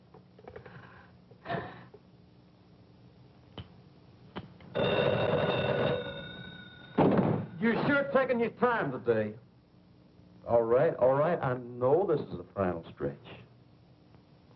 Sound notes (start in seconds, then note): 4.7 phone ringing